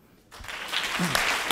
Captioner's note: audience applauds